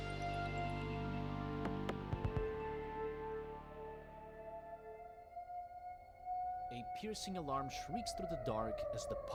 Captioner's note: siren in the distance